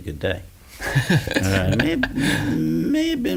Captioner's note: laughs